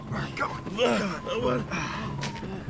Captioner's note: groaning